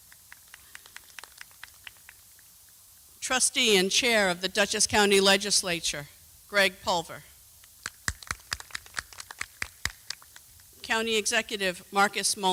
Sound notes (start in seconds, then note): 4.2 applause